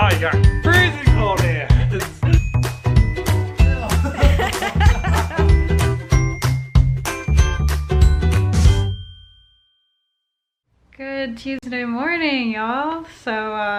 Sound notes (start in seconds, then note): 3.6 laughs; 6.5 bright music